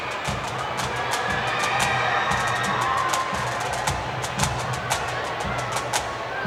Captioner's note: cheers and Applause